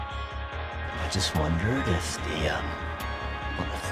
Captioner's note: voiceover